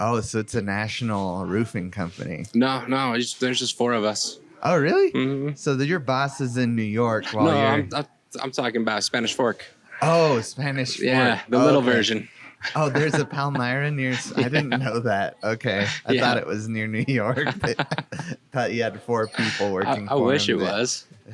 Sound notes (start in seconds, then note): 17.0 laughs